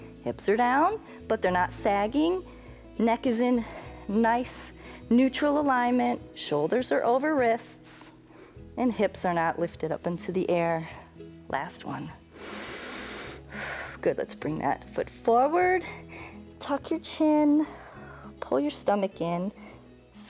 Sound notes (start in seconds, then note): 12.3 inhales and exhales